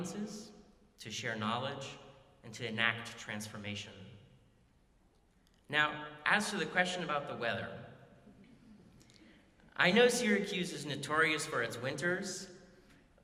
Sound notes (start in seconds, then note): none